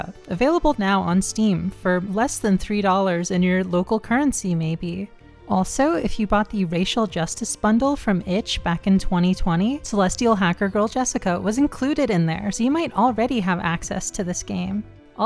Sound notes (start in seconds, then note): none